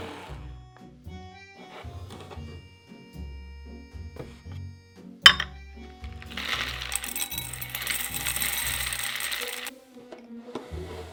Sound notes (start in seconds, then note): 6.0 noodles dropping